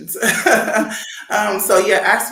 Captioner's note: chuckles